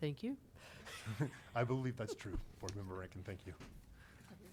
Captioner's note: chuckles